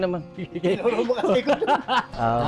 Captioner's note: laughs